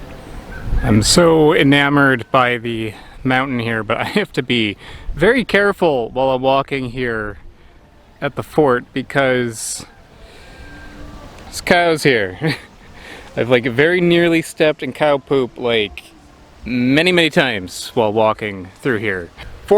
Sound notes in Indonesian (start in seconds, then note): 12.3 tertawa